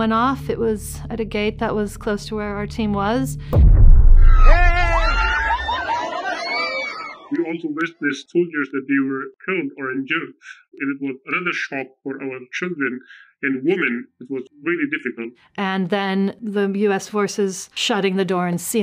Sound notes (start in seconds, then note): 3.5 bomb blasting; 4.2 crowd screaming